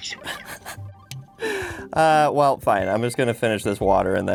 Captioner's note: giggling